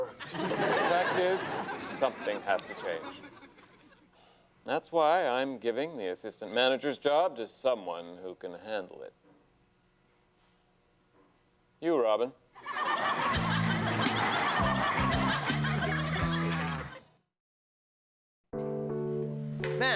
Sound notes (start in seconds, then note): 0.0 audience laughs; 12.6 audience laughs; 13.1 upbeat music; 18.6 gentle music